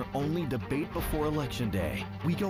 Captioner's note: HABLAN EN INGLéS